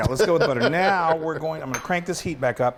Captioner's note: laughs